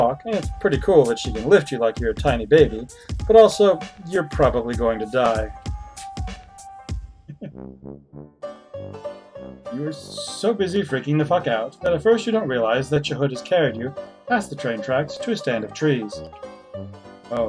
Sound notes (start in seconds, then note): 7.3 chuckles